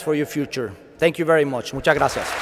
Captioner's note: applause